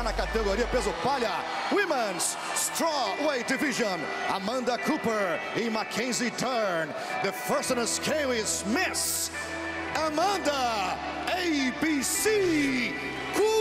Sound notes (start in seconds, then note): 1.1 speaking foreign language